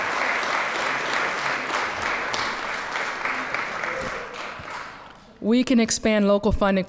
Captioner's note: applause